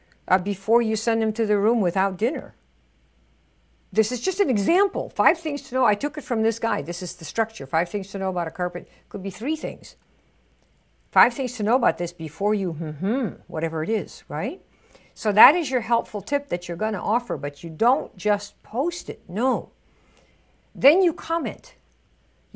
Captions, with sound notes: before you send them to their room without dinner. This is just an example, five things to know. I took it from this guy, this is the structure, five things to know about a carpet. Could be three things. Five things to know about this before you (hums) whatever it is, right? So that is your helpful tip that you're gonna offer, but you don't just post it. No, then you comment.